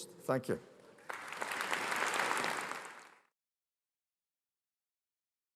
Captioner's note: audience applauding